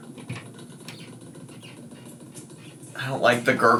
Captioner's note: liquid gurgling